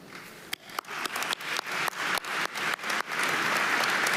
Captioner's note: audience applauding